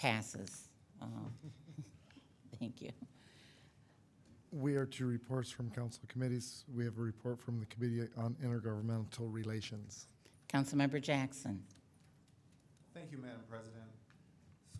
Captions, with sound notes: Passes. (chuckles) Thank you. - We are to reports from council committees. We have a report from the Committee on Intergovernmental Relations. - Councilmember Jackson. - Thank you Madam President.